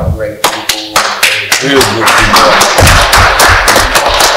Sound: applause

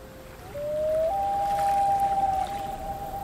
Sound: water sounds and loon call

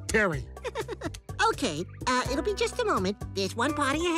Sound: chuckles

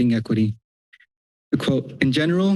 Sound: pause

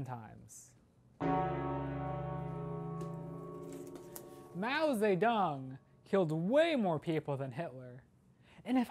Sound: bell tolls

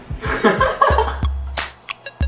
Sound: laughs

